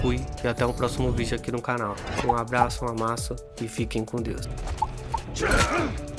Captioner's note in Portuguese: gemido